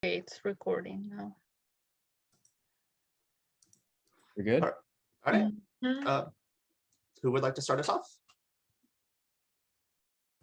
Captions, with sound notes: - Okay, it's recording now. (mouse clicking) - We good? - All right. So who would like to start us off?